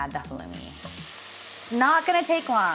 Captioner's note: pan sizzling